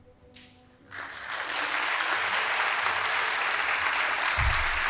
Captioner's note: audience applauding